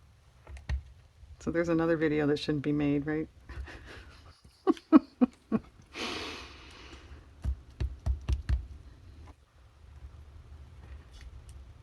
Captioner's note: laughs